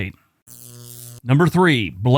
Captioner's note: static crackling